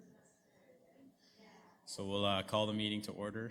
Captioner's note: background chatter